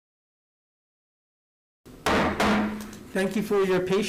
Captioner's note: gavel striking